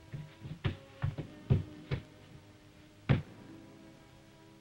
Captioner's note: pounding wall